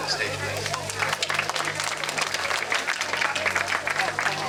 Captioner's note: crowd clapping